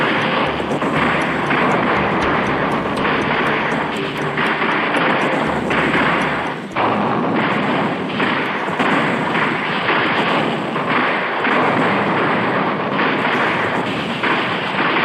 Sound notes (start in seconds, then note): 0.0 guns firing; 0.3 bombs exploding; 2.0 guns firing; 4.1 bombs exploding